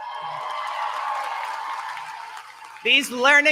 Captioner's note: applause